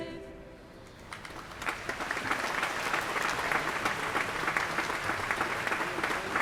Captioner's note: applause